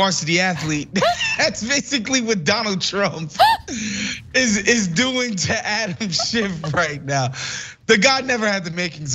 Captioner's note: laugh